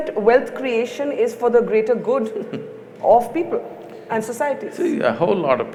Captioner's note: Sadhguru laughs